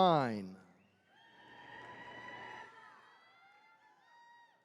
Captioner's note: attendees cheering